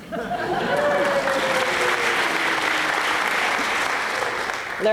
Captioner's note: applause